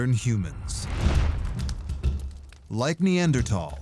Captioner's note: fire crackling